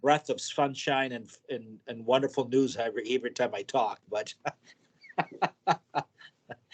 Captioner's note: laughs